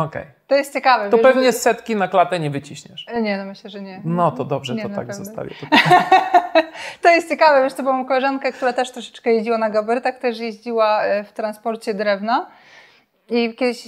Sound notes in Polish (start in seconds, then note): 5.6 śmiech